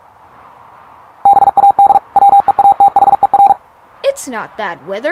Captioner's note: robot beeping